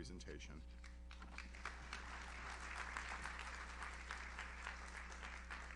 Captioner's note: audience applauds